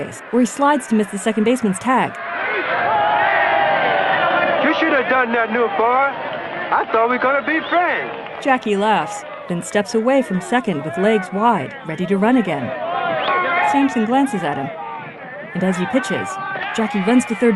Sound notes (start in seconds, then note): 9.2 crowd cheering; 14.7 explosive cheers